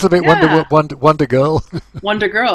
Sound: chuckles

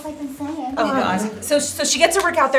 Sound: everyone groans

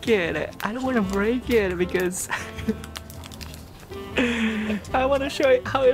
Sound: chuckles

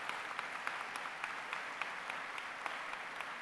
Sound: applause

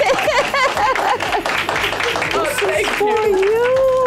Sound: laughing; crowd applauding

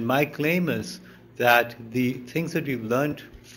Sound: none

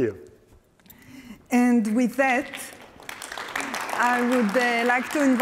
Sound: applause

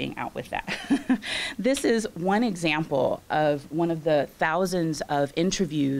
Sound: chuckles

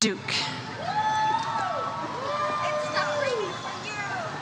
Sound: audience cheers

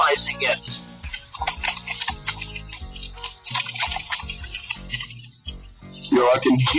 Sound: loud typing

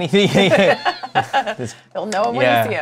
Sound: laughter

